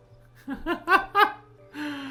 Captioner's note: laugh